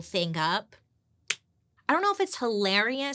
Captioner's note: hand clapping on knee